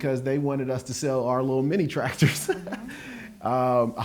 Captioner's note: laughs